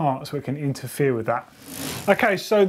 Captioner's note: bike wheel spinning